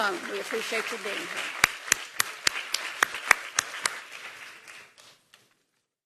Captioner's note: applause